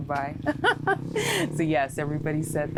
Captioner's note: laughs